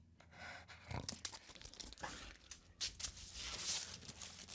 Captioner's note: rocks scratching